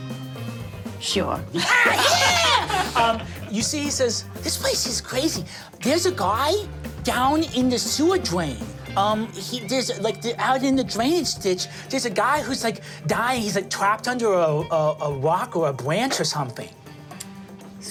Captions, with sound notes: - Sure. - (laughs) Yeah! (group laughing) You see he says, this place is crazy. There's a guy down in the sewer drain. Like, out in the drainage ditch there's a guy who's, like, dying, he's like trapped under a rock or a branch or something.